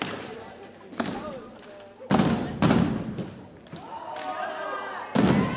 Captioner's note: cadets thump rhythmically